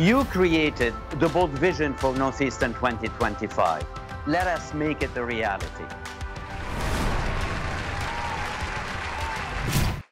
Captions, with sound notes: You created the bold vision for Northeastern 2025. Let us make it a reality. (upbeat music) (applause)